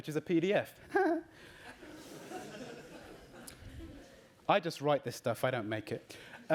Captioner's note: laughs